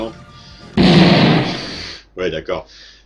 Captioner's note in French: boum